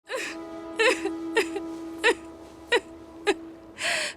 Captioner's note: crying